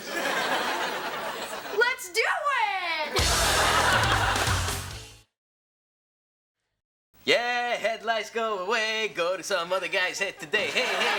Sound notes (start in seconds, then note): 0.0 audience laughs; 3.1 audience laughs; 10.4 audience laughs